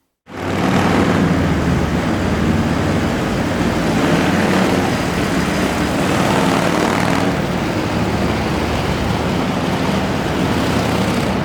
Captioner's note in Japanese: エンジン音